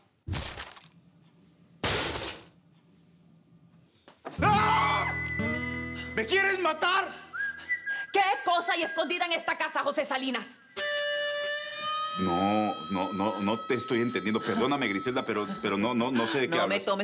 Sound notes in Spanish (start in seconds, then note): 1.8 Estruendo; 4.4 Gritos